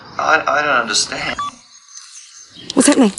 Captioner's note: recorder beeps